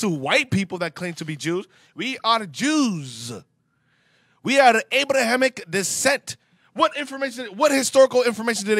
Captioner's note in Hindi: <i>व्यंग्य</i>